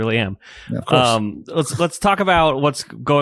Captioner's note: laughs